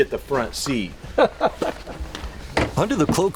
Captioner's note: laughing